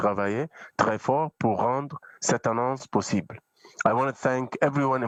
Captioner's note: speaking French